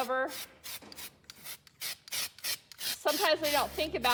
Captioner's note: spraying noises